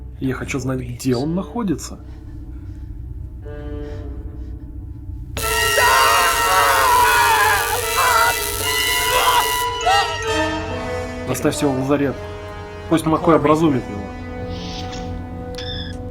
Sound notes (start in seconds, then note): 5.4 screams